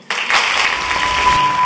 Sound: audience applauding; bright jingle

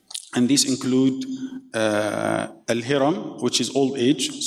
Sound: speaking in foreign language

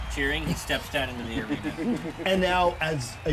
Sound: laughs

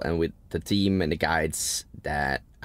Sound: none

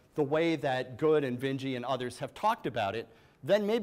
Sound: none

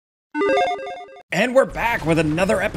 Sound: chiptune beeps

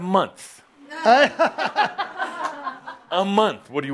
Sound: some chuckles

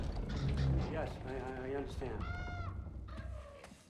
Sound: caw

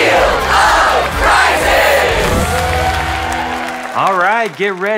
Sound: clapping

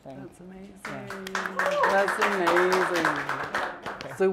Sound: applause

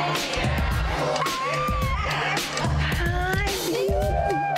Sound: person squeals

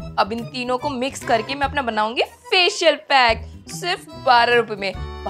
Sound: none

